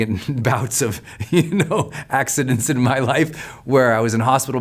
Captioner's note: laughs